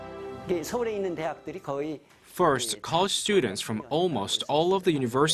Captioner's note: Korean